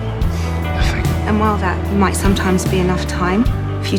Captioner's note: voiceover